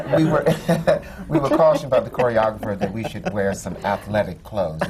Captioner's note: laughter; laughs